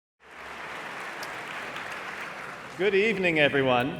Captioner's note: audience applauding